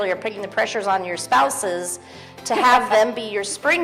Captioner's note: laughs